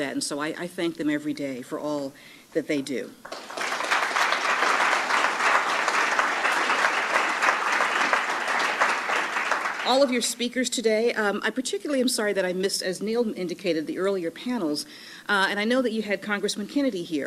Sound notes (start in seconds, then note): 3.2 applause